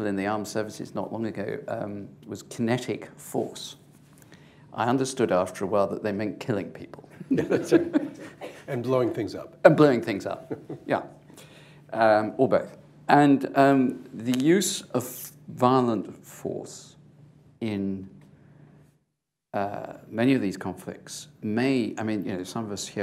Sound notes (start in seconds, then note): 7.2 laughter; 10.3 laughs